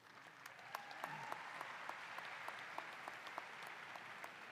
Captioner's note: applause